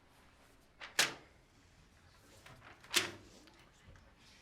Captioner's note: paper rustling